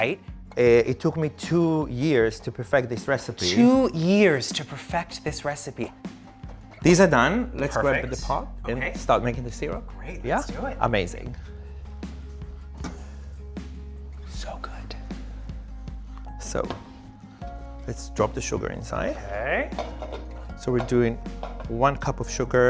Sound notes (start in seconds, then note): 12.2 mellow music; 19.6 pan clanking